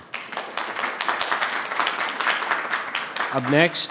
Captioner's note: audience clapping